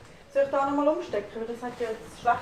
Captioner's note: in Swiss German